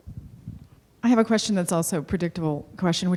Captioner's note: voiceover